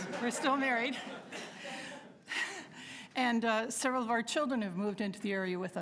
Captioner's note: laughter